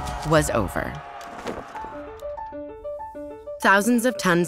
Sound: crowd cheering

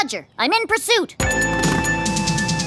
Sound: revs up

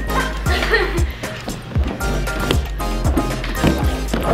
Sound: laughter

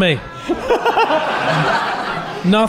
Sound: laughing

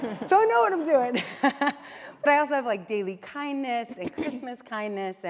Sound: laughs

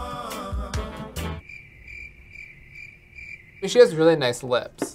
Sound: upbeat music; crickets chirping

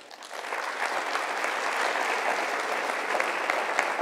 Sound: applause

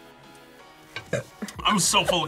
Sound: burps

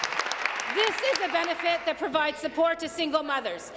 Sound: applause

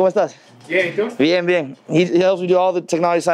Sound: speaks Spanish

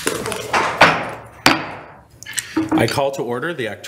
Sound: gavel taps

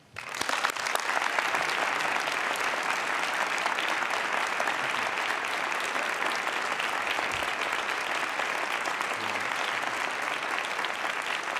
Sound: applause

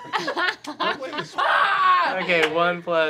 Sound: shouts

